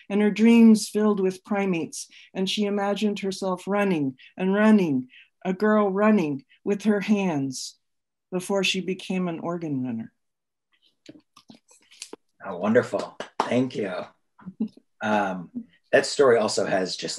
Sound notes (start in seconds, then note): 12.8 panelists clapping